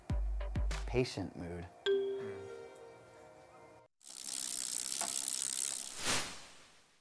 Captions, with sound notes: Patient mood (ding). (film reel clicking)